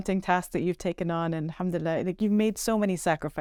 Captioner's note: speaking Arabic